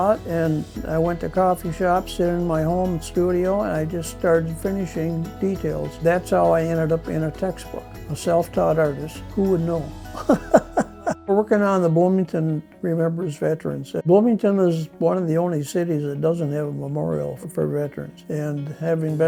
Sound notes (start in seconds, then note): 10.1 person laughing